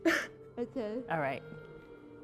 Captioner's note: chuckles